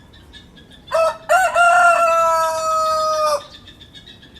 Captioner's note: cock-a-doodle-doo